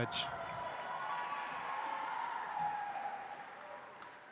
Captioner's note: audience applauds